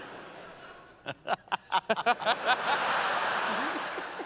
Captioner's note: laughter